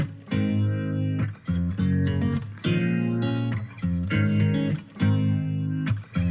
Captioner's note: none